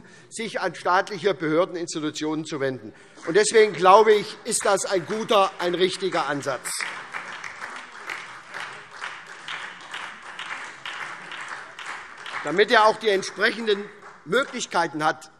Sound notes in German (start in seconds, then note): 7.2 Beifall